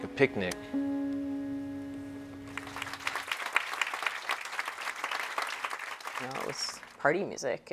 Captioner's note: applause